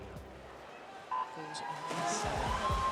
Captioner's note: starting klaxon